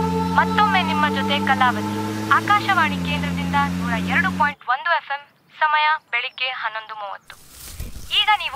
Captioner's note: Radio chattering